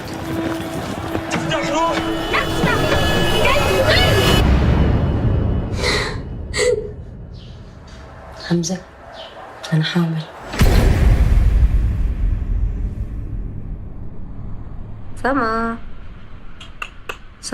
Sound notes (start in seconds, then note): 1.6 yelling; 5.9 crying